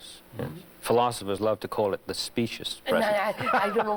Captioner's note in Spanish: Risas